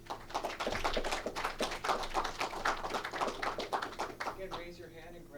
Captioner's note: clapping